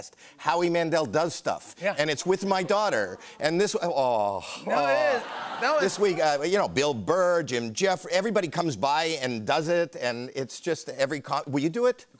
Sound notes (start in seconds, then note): 4.6 audience aws; 4.6 laughter